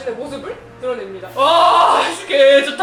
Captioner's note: screaming